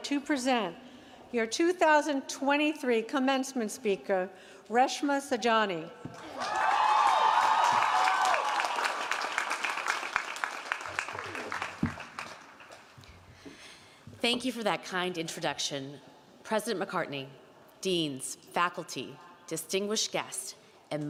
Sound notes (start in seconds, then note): 6.2 audience cheering and applauding